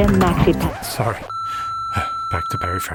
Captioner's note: electric feedback